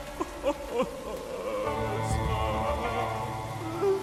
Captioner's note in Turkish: Ağlayarak